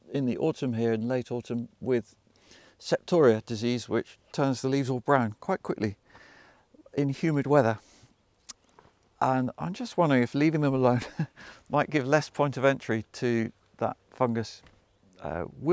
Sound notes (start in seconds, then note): 10.9 chuckles